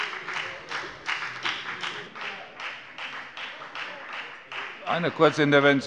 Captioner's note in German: Beifall bei der FDP